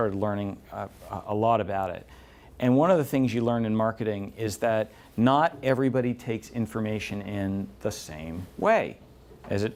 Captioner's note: none